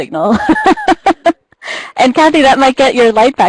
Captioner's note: laughs